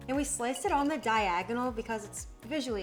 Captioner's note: celery thudding